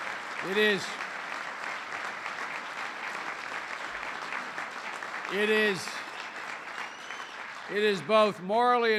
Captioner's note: applause